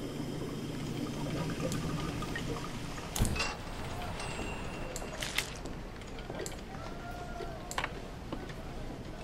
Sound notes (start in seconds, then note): 0.4 water draining; 4.2 shop bell dings